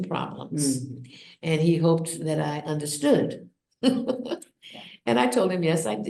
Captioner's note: laughs